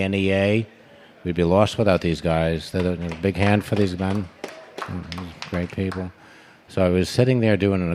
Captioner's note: applause